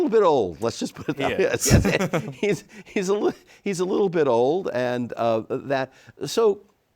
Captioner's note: both laughing